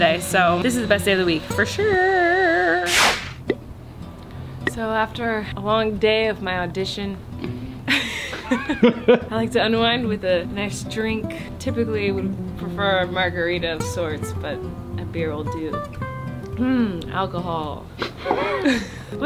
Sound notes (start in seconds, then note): 2.9 playful popping; 7.8 both laughing; 18.0 both laughing